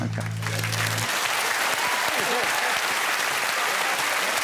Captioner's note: cheering and applause